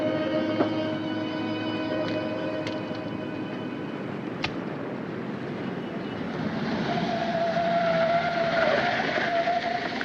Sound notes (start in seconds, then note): 4.5 match sparking; 5.7 tires screeching